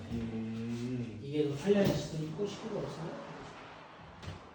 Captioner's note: sound of a sliding door opening